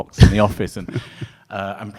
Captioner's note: laughing